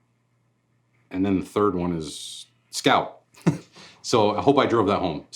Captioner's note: laughs